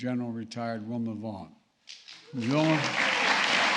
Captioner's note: applause